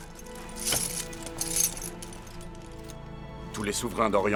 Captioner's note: armor rattling